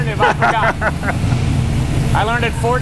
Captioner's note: man laughing